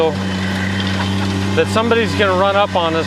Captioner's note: engine revving